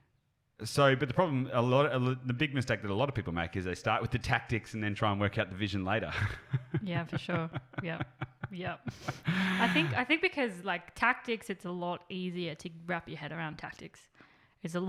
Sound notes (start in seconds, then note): 7.8 laughs